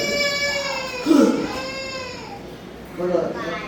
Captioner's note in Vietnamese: khóc